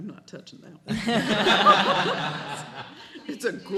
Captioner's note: laughing